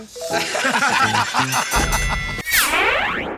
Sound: laughter; ding!

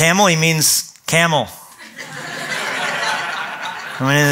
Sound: laughter

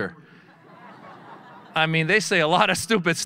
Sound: audience laughing

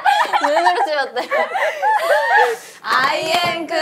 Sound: laughing

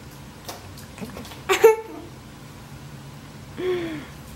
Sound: laughing

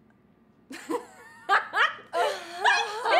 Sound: Tina Laughs

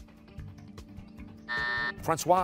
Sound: buzzer

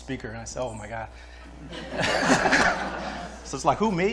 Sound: laughter

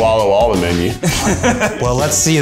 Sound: laughing

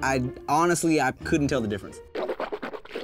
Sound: swishing champagne loudly

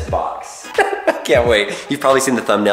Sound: laughs

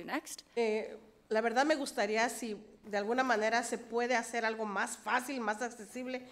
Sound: speaks foreign language

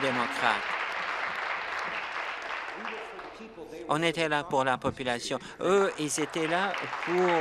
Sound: applause

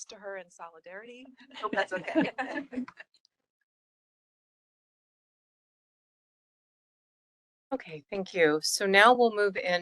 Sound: laughing

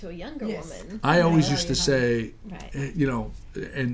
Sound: voiceover

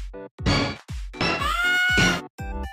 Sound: screams

